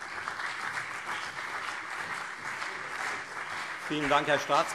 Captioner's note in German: Beifall CDU und SPD